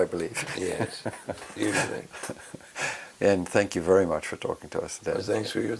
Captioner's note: laugh